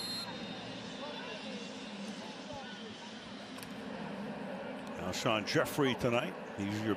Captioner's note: whistle